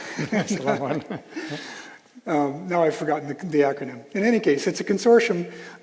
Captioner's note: laughing